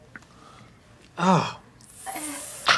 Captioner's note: sensory wincing